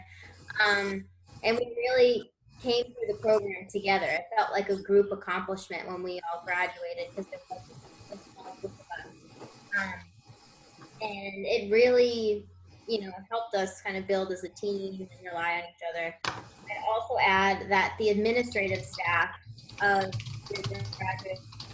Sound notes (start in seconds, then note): 7.5 interference